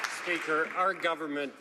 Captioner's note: some Applause